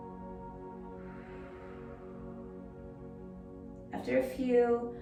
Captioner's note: pursed lips breathing